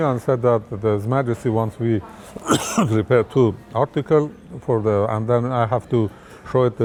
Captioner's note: coughs